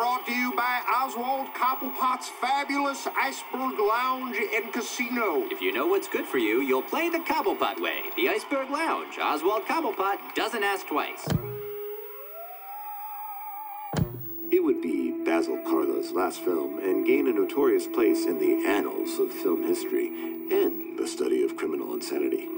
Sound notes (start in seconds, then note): 10.7 theremin music; 11.2 clicks; 13.6 clicks